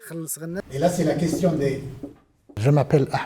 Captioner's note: lecturing in French